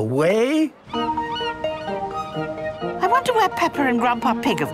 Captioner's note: gulls squawking